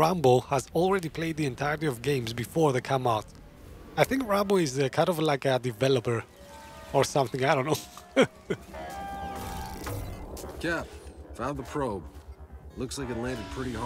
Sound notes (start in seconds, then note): 7.8 laughs